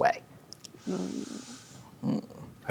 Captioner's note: inhales